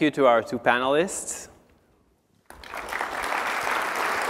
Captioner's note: applause